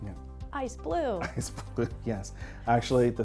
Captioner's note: laughs